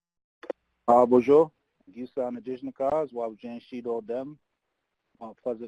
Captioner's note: foreign language